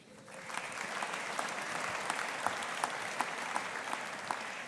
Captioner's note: audience applauding